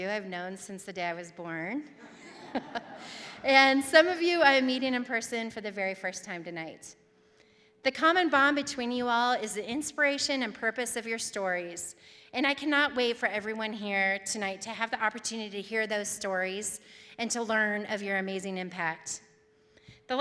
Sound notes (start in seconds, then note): 2.0 audience laughing